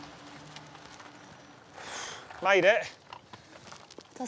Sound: sighs

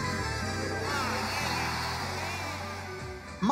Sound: crowd cheers

